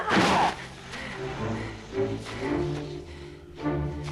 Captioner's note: Torente grunts